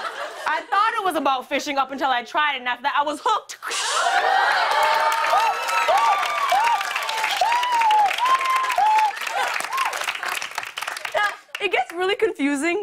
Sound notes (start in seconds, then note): 0.0 laughter; 3.8 cheers and applause